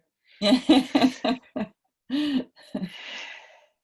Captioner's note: laughter